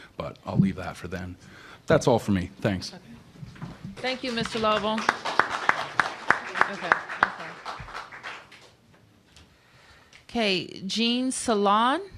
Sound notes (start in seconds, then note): 8.9 applause